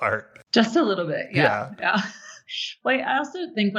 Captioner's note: laughs